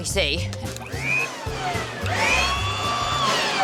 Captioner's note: leaf blower whirrs